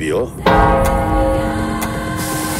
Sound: church bell rings

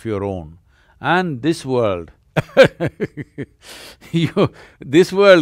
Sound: laughs

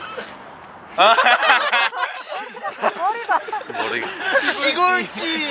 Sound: cracking up

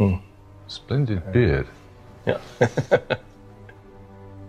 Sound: chuckling

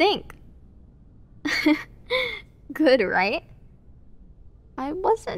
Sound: soft laugh

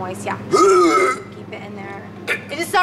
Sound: chocking

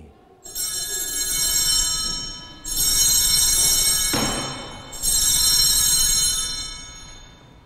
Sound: bells ringing

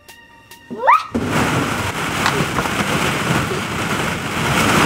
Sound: ball pit rustling

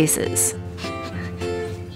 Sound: sniff

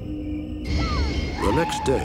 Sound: shout

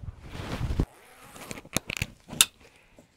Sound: zipper & buckle click

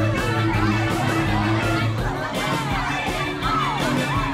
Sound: upbeat keyboard music; performers chattering

